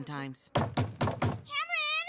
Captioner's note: knocking on door